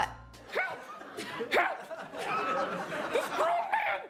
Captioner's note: audience laughs